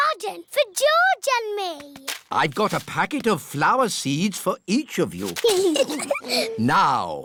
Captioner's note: both giggling